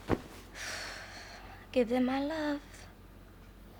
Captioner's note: loud exhale